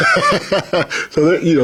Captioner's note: laughs